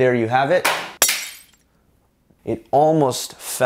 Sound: crashing sound

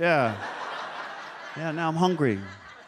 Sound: audience laughs

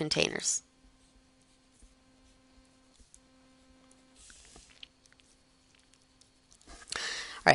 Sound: silence

